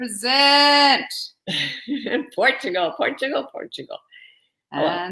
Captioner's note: giggling